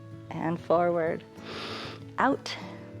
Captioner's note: inhales